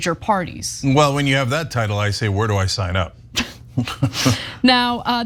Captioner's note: laugh